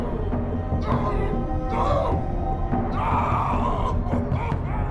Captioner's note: yelling